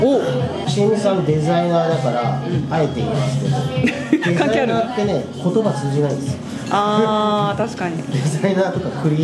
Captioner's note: laughs